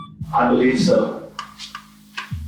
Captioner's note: beep